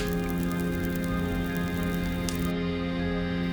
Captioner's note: fire crackling